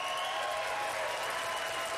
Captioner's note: applause